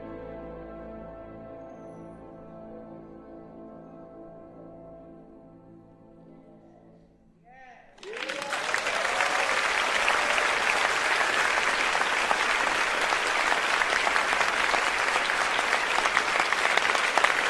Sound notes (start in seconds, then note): 7.9 audience applauding; 7.9 audience cheering quietly